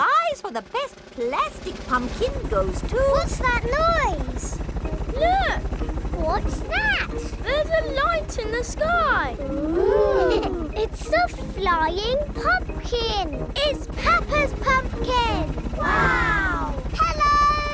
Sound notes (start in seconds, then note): 3.0 helicopter approaching